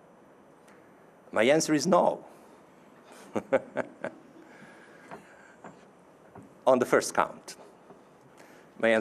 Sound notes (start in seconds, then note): 3.1 chuckling